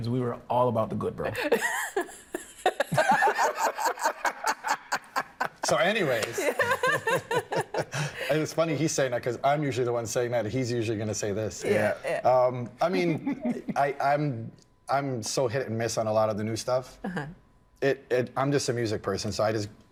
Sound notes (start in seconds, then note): 4.1 everyone laughing; 13.1 laughing